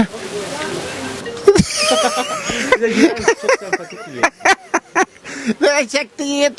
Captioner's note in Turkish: Gülme sesi